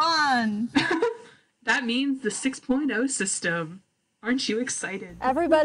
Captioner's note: laughs